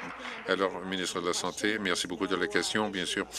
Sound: applause

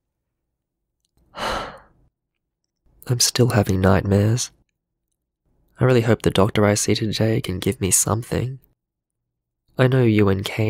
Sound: sigh

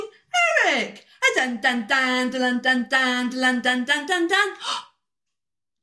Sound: gasp

